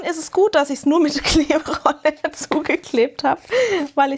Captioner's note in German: gelächter